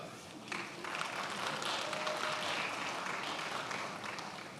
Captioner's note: attendees applauding